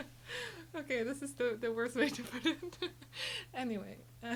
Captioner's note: group laughing; laughs